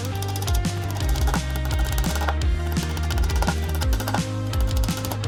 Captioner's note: drill whirring